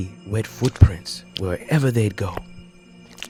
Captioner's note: squish